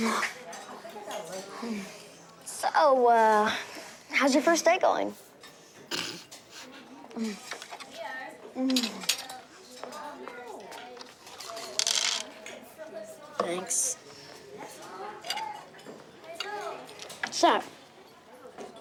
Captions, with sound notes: So ahh... How's your first day going? (grunts) (pills clatter) Thanks. - What's that?